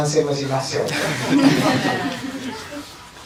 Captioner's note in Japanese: 会場 笑い声